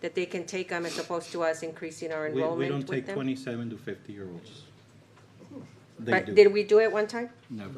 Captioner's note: snorts